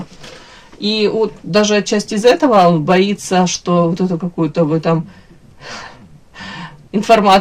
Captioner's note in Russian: вздыхает; тяжело вздыхает